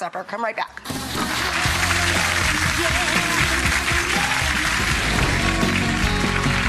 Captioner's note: rock 'n roll music; audience applauding; upbeat music